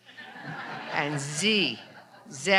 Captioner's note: audience laughs